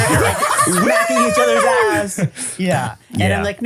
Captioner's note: everybody laughs